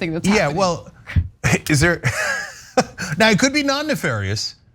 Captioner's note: laugh